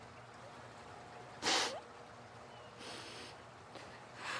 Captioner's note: sniffs